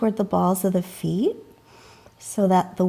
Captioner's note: deeply inhaling